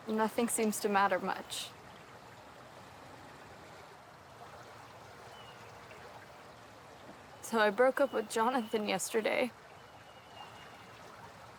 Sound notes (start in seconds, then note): 3.1 water burbles